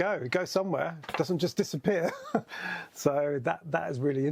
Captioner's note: laughs